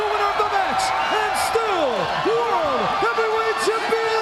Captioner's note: crowd cheering